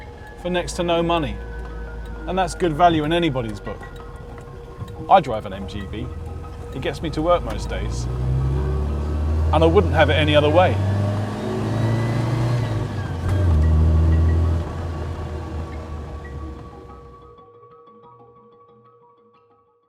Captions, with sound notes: for next to no money and that's good value in anybody's book. I drive an MGB. It gets me to work most days. And I wouldn't have it any other way. (engine revving)